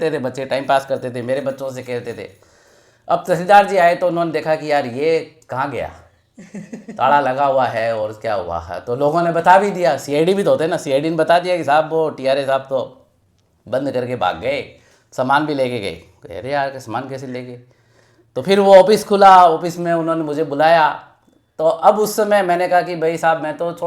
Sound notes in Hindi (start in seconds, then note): 6.3 हंसी